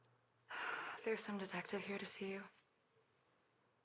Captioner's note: sighs